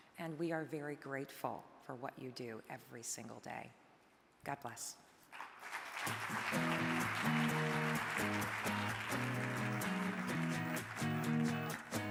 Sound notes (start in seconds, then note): 5.3 audience applauding; 6.0 upbeat music